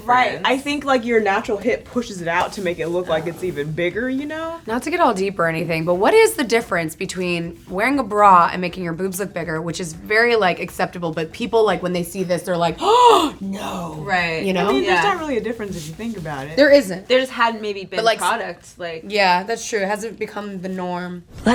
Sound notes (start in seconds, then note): 12.8 gasps